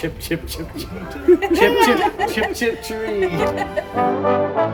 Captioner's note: seagull chirps